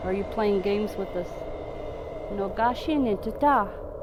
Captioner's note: speaking in foreign language